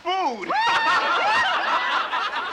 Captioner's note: laughing